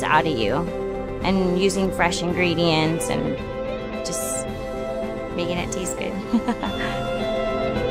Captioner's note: chuckles